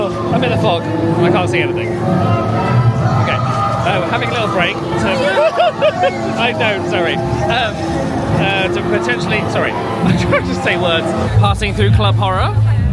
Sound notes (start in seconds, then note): 5.1 yelps; 12.7 upbeat music